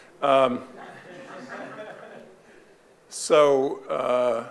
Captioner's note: audience laughing